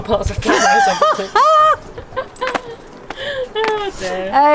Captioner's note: laughs